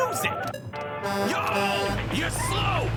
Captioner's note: semi horn